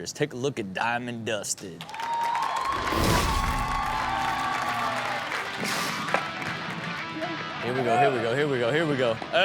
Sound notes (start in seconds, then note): 1.8 audience cheers; 2.0 upbeat rock music